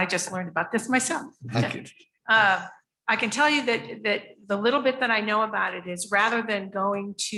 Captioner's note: chuckles